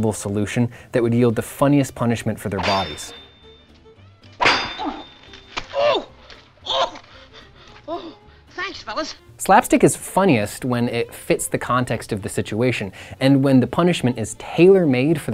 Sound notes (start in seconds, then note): 4.4 loud clanking